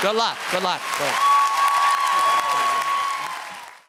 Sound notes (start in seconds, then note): 3.6 cheers and applause